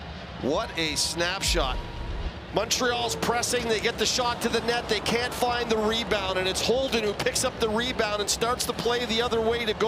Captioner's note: applause